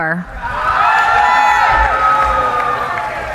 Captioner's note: cheering